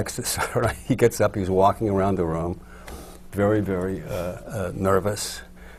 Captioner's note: laughs